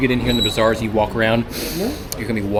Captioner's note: sniffs